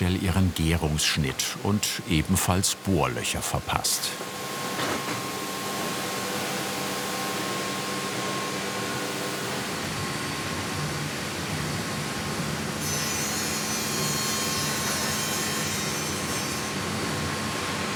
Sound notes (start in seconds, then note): 12.9 sawing